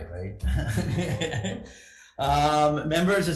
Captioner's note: laughing